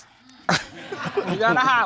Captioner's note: sighs; laughter